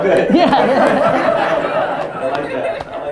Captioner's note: audience laughter